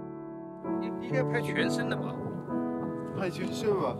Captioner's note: speaks in Chinese language; speak in Chinese language